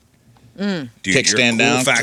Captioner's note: mimicking noises